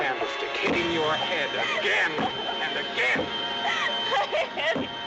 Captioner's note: banging More Forcefully